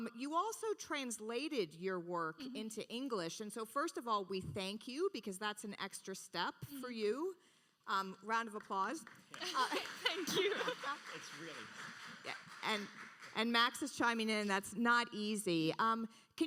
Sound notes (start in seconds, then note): 9.0 audience applauding; 9.4 laughs